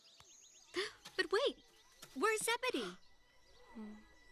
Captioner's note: chuckles; gasps